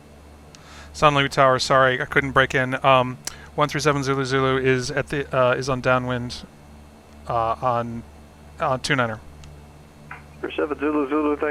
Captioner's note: me on radio